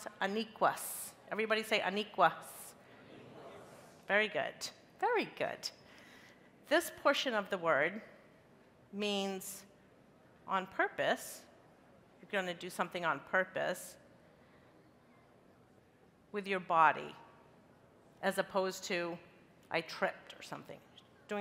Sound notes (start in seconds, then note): 2.9 crowd